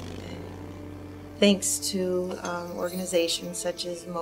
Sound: motorcycle engine

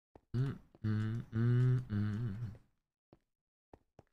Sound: hums

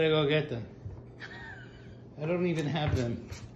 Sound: laughing

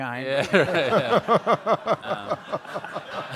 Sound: all laugh

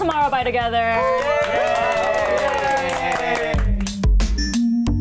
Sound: band cheers and claps; electronic beat

